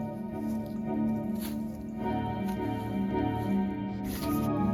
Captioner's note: none